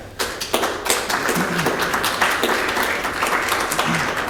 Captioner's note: audience clapping